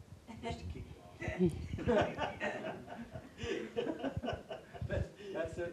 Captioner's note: audience laughing